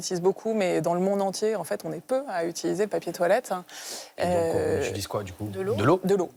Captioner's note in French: grognement